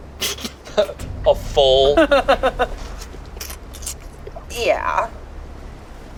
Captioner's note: worm squelches